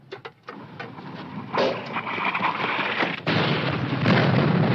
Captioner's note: rustling winds; bomb exploding